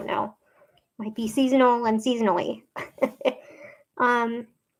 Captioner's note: laughs